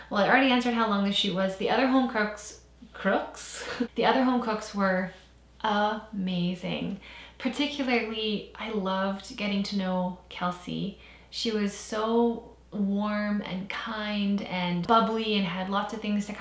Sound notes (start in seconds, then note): none